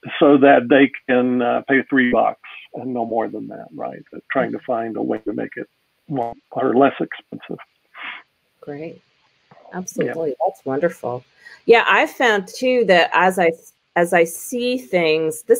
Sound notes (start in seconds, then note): 6.2 audio glitches